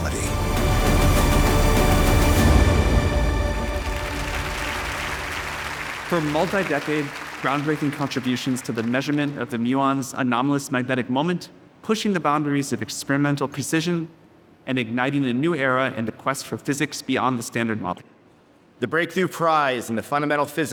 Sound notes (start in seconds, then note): 0.0 uplifting music; 3.8 audience applauding